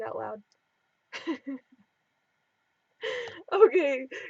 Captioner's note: laughing